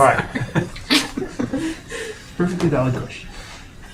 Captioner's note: laughing; speaking in foreign language